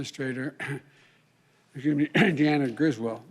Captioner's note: coughs